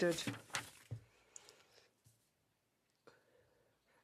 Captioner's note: speaking French